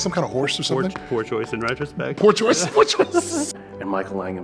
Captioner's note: laughing